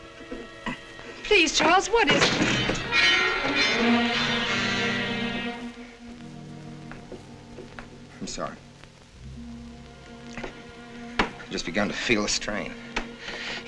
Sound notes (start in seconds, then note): 3.3 wall clock chiming